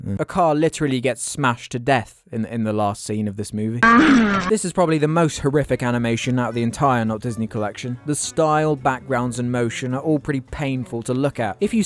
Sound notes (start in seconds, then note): 3.8 hellish sounds